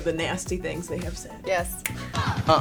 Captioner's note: snaps